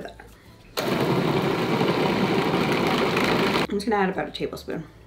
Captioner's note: food processor whirring